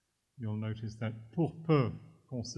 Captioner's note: french